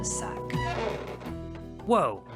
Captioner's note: door opening